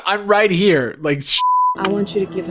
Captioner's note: beep